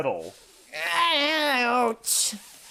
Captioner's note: pained